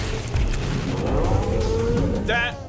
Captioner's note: centurion screaming